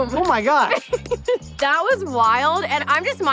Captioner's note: hands clap